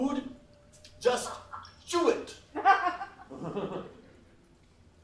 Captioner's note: laughs